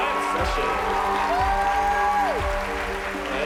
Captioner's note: cheering and applause